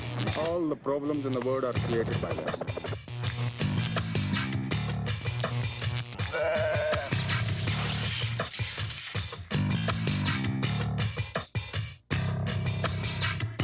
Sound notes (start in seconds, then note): 2.9 electricity buzzing; 6.1 sheep bleating; 7.1 electricity buzzing